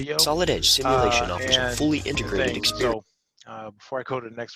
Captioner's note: voiceover